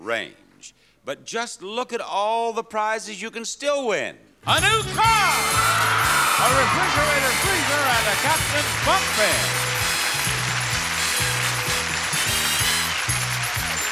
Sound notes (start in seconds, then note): 5.8 crowd cheering; 9.3 energetic music; 10.1 applause